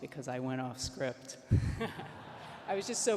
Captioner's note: laughs